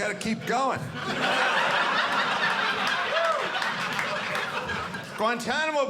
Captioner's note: audience laughing